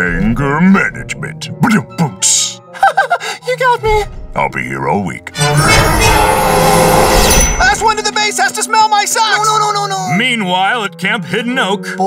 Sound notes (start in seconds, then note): 2.7 laughing nervously; 5.5 roaring